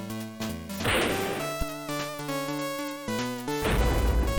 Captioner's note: slam